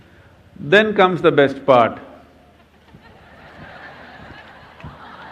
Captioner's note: gestures/Laughter